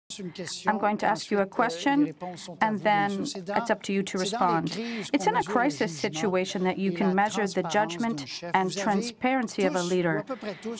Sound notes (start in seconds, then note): 0.4 speaking French; 1.7 voice of translator